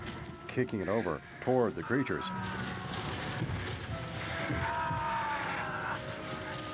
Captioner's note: groaning